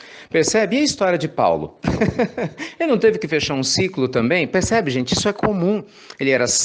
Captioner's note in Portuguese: risos